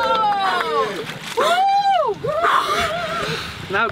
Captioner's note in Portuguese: respirando fundo